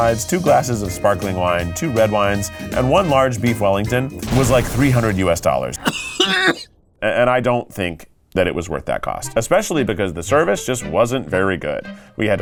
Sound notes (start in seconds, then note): 4.3 graphics booming; 5.7 coughs; 9.1 gentle music